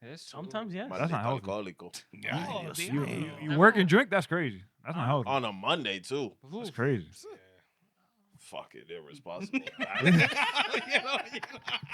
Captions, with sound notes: Yes, sometimes, yes. That's not healthy. I like the alcohol, I go, yeah. You work and drink, that's crazy. On a Monday, too. That's crazy. Fuck it, they're responsible. (Laughing)